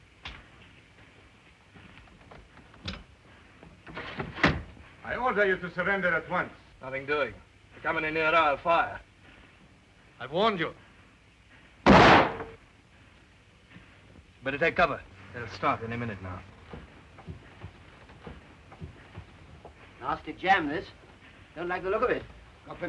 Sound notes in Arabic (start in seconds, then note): 3.9 صوت خشخشة النافذة تنفتح; 11.8 طلق ناري